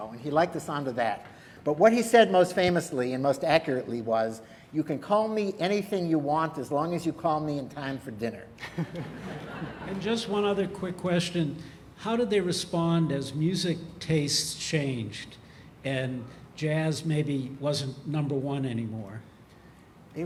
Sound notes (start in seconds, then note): 8.6 laughter